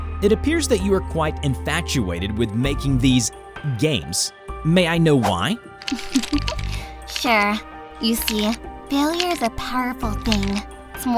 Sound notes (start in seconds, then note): 5.9 chuckles